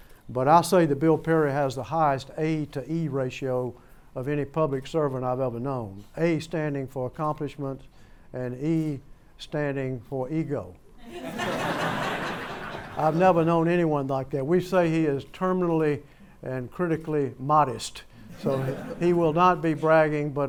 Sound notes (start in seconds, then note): 11.0 laughter